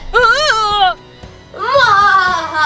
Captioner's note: laughs wickedly; Chase screaming